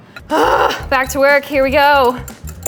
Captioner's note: groaning